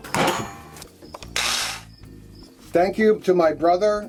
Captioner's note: whirring